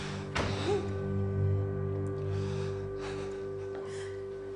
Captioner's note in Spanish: Sollozos